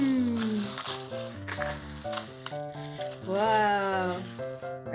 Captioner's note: rocks rattling